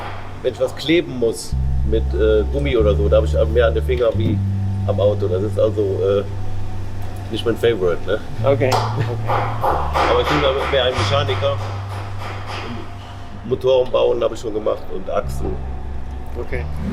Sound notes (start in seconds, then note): 8.7 laughs